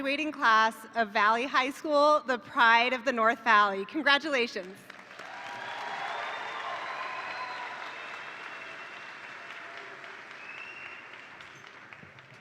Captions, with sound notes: of Valley High School, the pride of the North Valley. Congratulations. (attendees applaud) (attendees cheer)